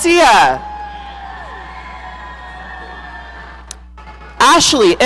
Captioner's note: audience cheering